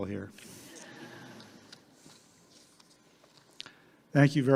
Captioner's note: audience laughing